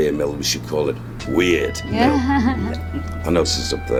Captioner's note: chuckles